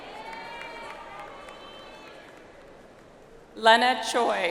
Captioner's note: audience applauds